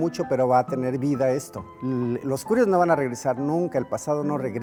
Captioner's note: speaking in Spanish/English Subtittle